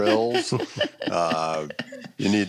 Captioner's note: laughter